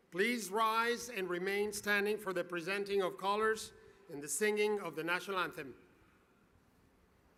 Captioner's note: spanish